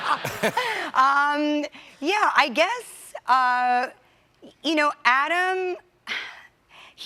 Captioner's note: laughter